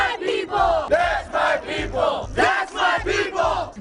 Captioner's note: shouting